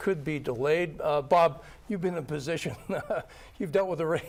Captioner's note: laughs